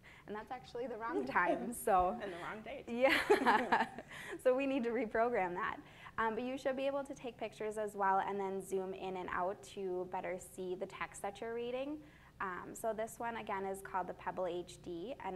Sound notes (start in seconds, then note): 3.0 both women laugh